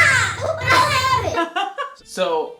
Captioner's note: laughs